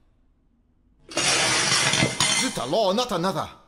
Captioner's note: crash